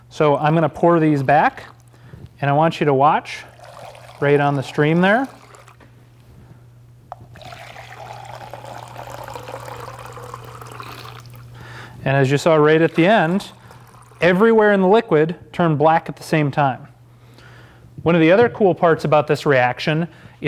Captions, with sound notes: So I'm going to pour these back and I want you to watch right on the stream there. (solution drips) And as you saw right at the end, everywhere in the liquid turned black at the same time. One of the other cool parts about this reaction